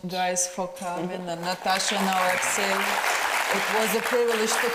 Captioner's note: audience applauds